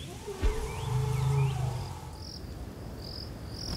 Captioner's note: elephant rumbling; bird chirping